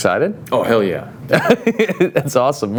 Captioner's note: laughs